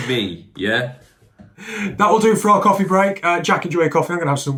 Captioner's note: laughs